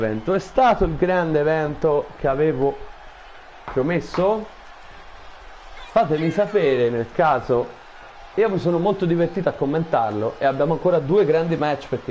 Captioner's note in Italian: Applauso